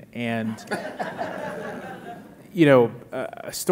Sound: audience laughing

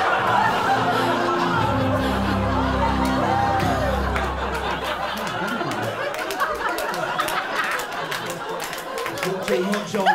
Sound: laughter, applause, saucy whistles, the lot

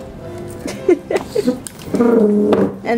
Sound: laughs

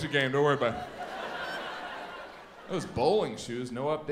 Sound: audience laughs

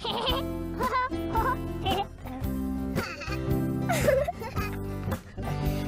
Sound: laughter

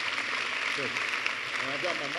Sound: applause

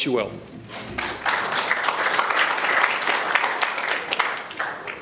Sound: applause

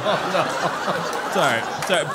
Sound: laugh

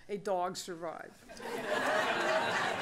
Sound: laughter

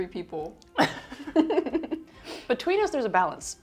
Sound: both chuckle

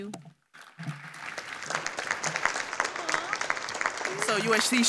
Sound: audience applauding

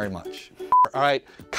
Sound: beep

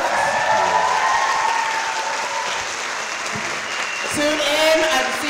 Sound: audience cheering

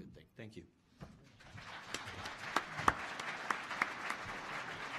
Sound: applause

